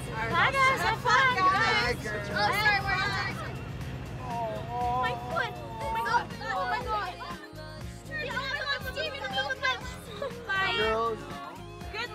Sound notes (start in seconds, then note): 7.6 everyone chattering